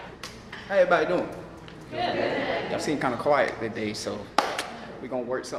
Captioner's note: crowd